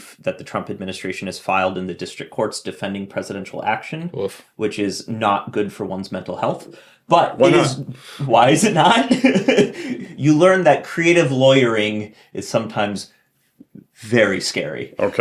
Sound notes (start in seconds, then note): 8.8 chuckles